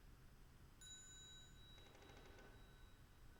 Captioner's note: bell chimes